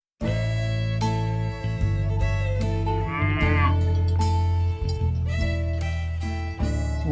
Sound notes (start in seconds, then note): 3.0 mooo